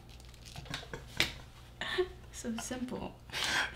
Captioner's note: laughing